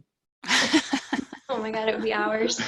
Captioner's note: laughs